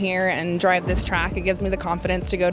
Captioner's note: object rumbles